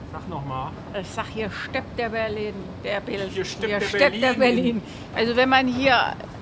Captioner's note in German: lacht